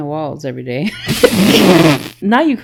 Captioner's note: laughs